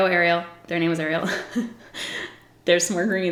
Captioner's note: giggles